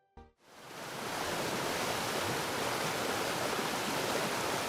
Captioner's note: water burbling